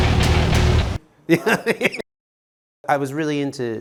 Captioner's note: laughter